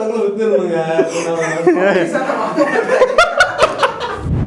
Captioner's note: laughing heartily, a good way to end